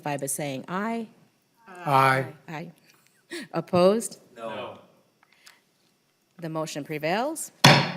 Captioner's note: chorus of ayes